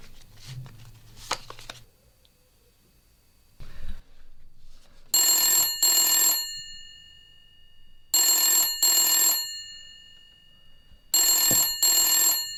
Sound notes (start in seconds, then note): 0.0 sound of playing cards; 5.1 sound of phone ringing